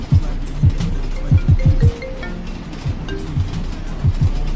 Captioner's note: phone rings